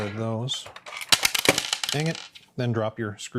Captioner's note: screws rattling